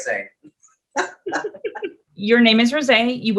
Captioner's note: both laughing